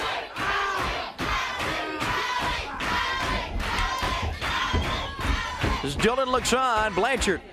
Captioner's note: crowd cheering